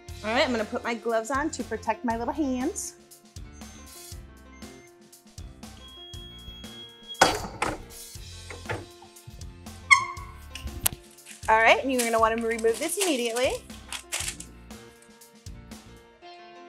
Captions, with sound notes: - All right I'm going to put my gloves on to protect my little hands. (machine beeping) All right, and you're gonna wanna remove this immediately.